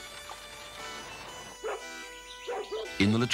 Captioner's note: dog barking